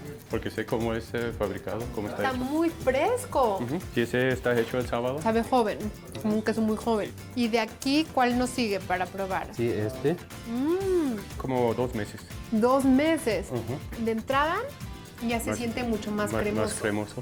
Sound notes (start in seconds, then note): 1.9 both speaking Spanish; 11.4 both speaking Spanish